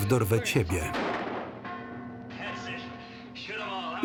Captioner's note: bell ringing; gun firing